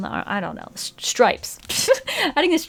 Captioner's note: laughs